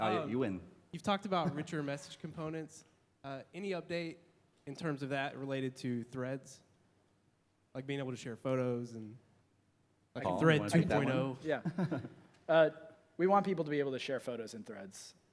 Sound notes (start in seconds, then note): 11.5 laughter